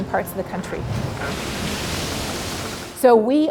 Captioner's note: water splashing